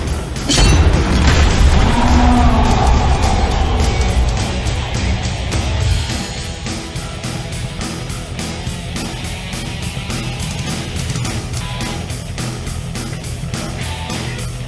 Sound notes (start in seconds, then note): 2.3 creature roaring; 2.3 tense music